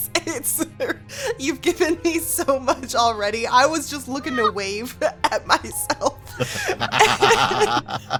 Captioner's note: chuckles; laughs